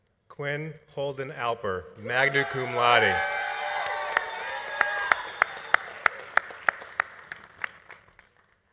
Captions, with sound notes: Quinn Holden Alper, magna cum laude. (audience applauding) (audience cheering)